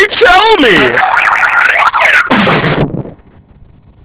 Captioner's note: bonk!; boing!; whoop!